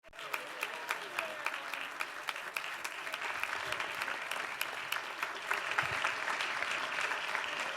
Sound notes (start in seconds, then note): 0.0 applause